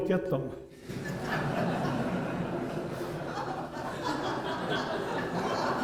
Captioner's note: laughter